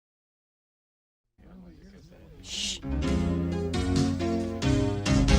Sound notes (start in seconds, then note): 1.6 shhh